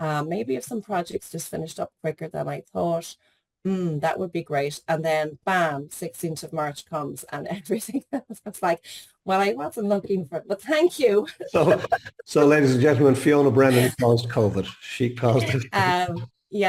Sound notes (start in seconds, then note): 11.3 laughs